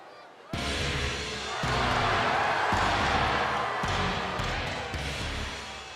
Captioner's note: crowd cheering; upbeat rock music